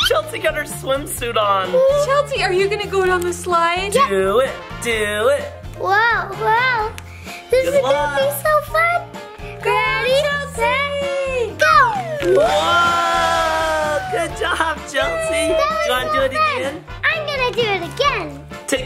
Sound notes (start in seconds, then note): 11.8 doll sliding; 11.8 everyone cheering